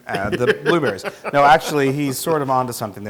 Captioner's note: laugh